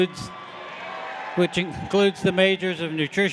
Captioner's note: audience applauding; audience cheering